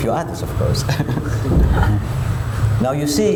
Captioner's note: laughs